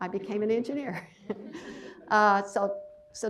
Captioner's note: laughs